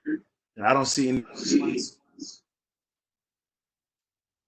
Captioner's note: murmurs